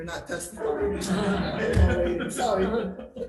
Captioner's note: audience laughs